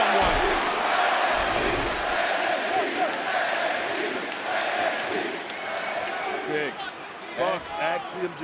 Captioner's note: crowd chants "nxt"